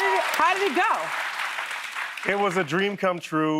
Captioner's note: cheers and applause